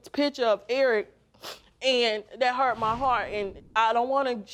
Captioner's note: sniffles